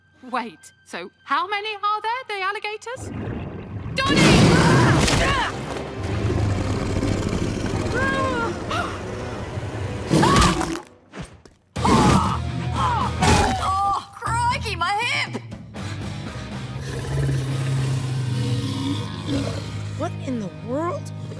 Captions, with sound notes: Wait, so how many are there, the alligators? Donnie! Ahh! [grunting] [snarling] Ahh! [gasping] [grunting] [grunting] Oh, crikey, my hip! [snoring] What in the world?